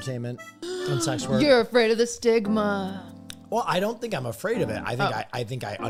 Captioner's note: gasps